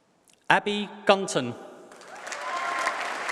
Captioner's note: applause